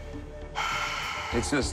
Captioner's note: sighing